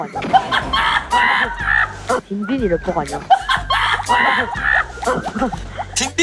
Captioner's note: hahahaha